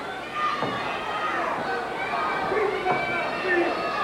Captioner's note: crowd yelling